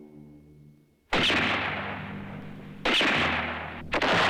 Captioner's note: gunshots